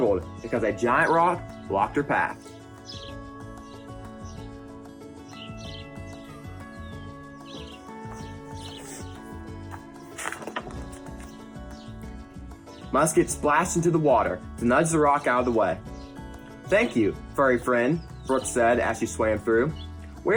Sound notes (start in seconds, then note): 3.3 birds chirp; 3.3 upbeat music